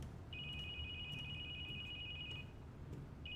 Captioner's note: phone ringing